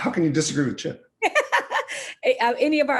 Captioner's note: laughing